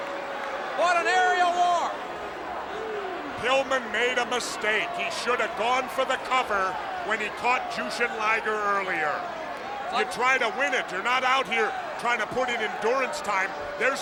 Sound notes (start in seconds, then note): 2.2 crowd clamoring